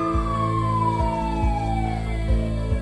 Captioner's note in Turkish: Siren çalıyor